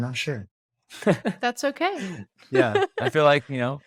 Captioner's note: laughs